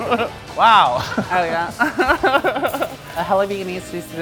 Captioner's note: laughs